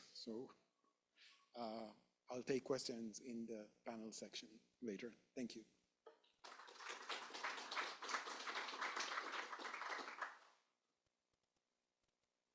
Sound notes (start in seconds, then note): 6.4 applause